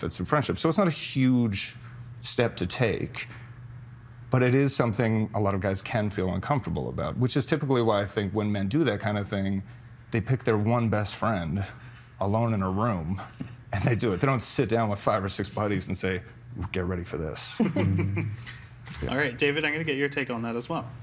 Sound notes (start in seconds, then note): 17.6 others laughing